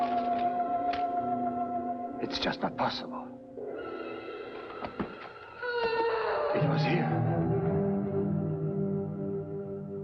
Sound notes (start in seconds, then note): 0.5 dramatic orchestral music continues; 5.6 woman wailing